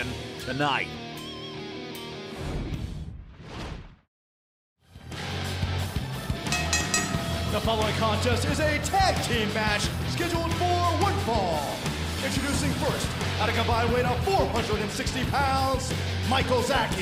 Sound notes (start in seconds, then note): 6.5 bell ringing